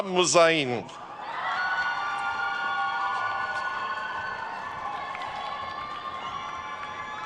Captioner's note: attendees cheering and applauding